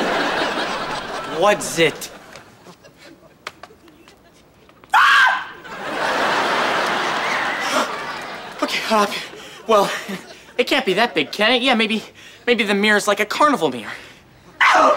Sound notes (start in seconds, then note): 4.9 screams